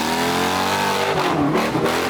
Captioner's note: engine revving